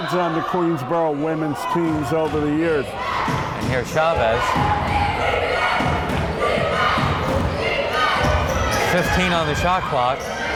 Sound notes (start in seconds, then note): 6.0 crowd chanting defense